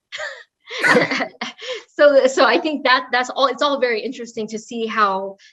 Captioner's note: laugh